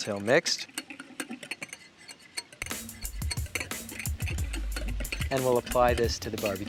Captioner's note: whisk clinking against glass bowl